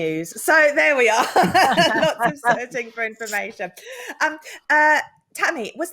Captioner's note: laughs